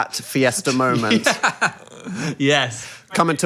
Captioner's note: laughs